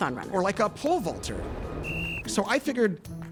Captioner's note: air whooshes; whistle blows